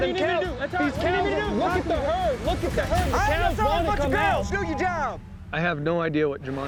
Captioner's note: cowboys all arguing